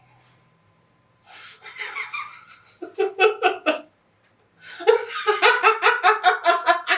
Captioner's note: Larry laughing